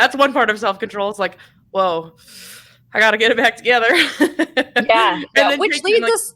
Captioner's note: laughs